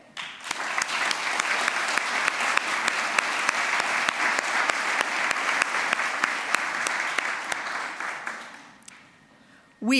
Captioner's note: applause